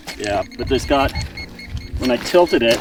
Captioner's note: beeping